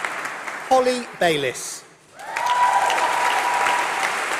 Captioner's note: applause